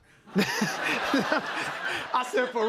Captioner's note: laughter